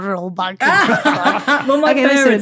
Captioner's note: laugh